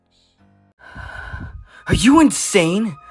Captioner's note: BELPHEGOR takes a shaky breath